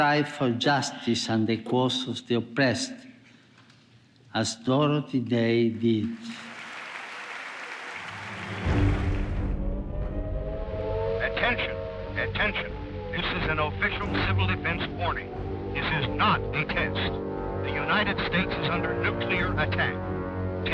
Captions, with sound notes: for justice and the cause of the oppressed, as Dorothy Day did. (audience claps) (air raid sirens wailing) - [Radio Announcer] Attention, attention! This is an official civil defense warning. This is not a test. The United States is under nuclear attack.